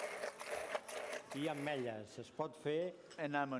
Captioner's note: non-english speech